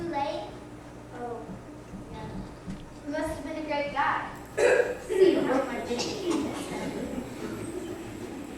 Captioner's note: great coughing among siblings